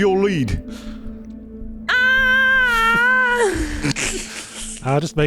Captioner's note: lets out a small panic yell